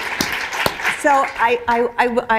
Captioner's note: applause